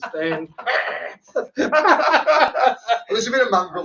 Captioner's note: both laughing